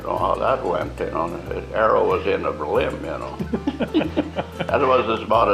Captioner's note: laughter